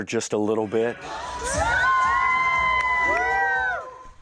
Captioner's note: cheering